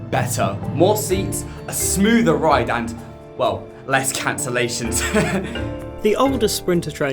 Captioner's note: laughs